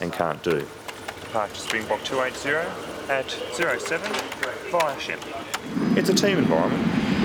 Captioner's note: background chatter